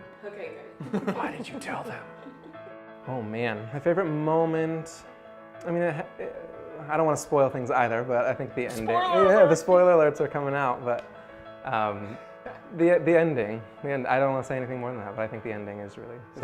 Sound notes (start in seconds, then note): 0.8 laughs; 8.8 laughs